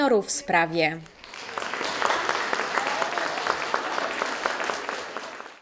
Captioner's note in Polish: aplauz